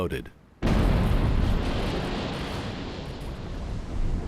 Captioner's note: explosion